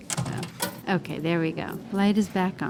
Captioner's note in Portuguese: som de um caixa